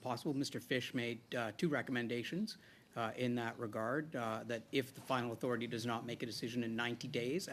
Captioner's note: speaking French